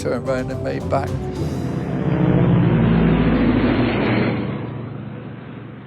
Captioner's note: plane engine roaring